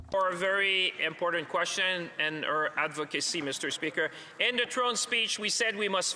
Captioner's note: speaking French